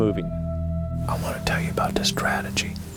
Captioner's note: whispering